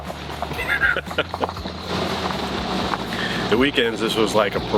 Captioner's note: laughing